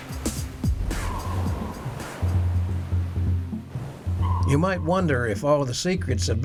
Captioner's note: waves splashing; submarine beeps